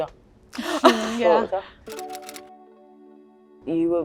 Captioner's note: Beth laughs